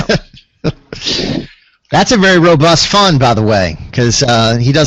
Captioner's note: laughter